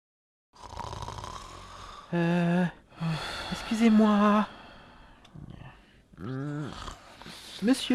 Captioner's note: snoring